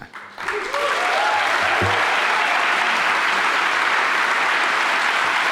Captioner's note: audience applauds and cheers